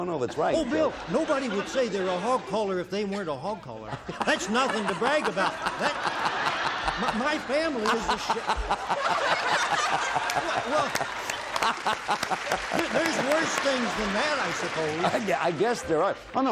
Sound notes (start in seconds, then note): 9.8 laughter